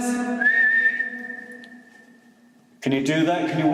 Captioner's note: whistling